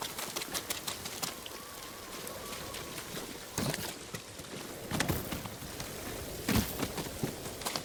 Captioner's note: footsteps